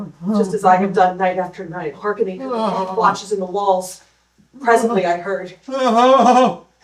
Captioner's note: moaning; moaning